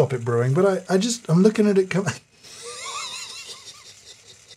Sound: laughing

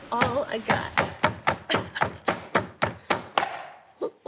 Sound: pounding

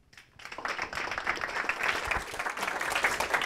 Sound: applause

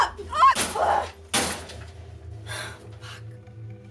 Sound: cage banging

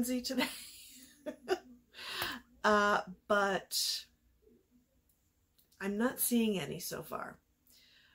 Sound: laughs

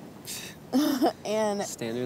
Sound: laughing

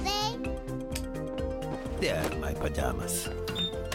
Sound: clicking; beeping

